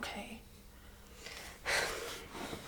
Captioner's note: Liz sighs